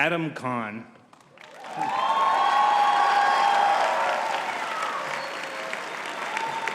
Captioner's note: audience cheering and clapping